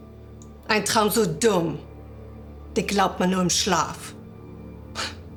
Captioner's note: Fredriech speaking German; Fredriech chuckling